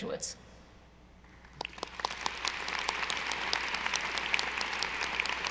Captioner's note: audience applauding